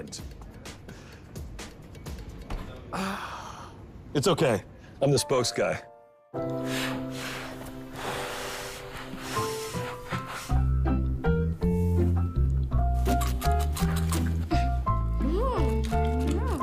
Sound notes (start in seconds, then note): 2.8 sighs; 6.4 blowing; 13.1 crunching quickly